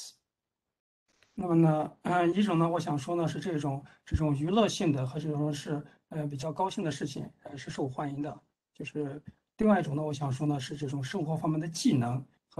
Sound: speaks in Mandarin

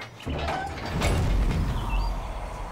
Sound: creak

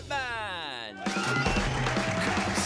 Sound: crowd cheering

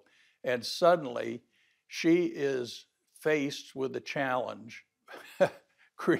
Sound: laughs

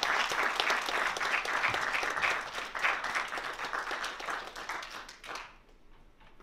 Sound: applause

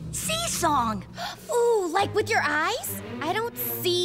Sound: gasping

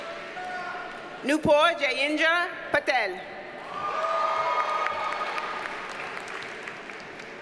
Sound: audience cheers and applauds

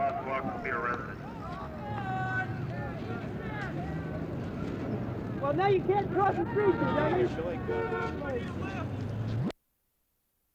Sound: crowd and traffic noise; silence

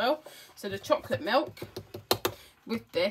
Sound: finger tapping container sound

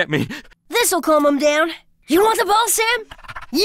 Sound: excited panting

